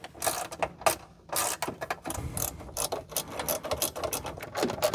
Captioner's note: screws Clatter